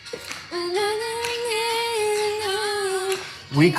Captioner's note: humming along